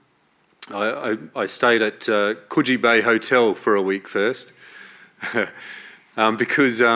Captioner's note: chuckles